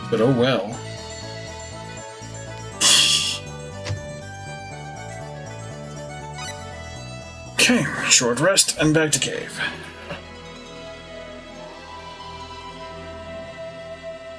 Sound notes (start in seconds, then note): 2.8 laughs softly; 8.8 sleep fanfare